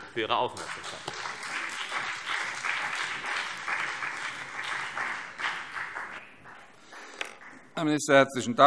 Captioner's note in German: Beifall CDU und BÜNDNIS 90/DIE GRÜNEN